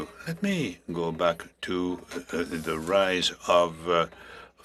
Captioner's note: speaking French